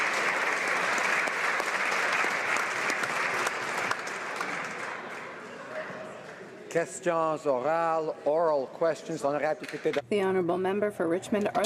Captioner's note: applause